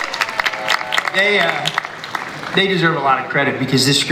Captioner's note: audience applauds